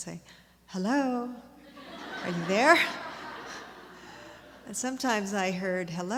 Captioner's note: laughter